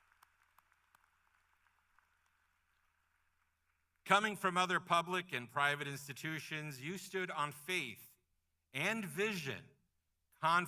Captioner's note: applause